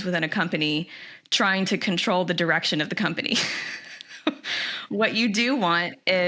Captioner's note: laughs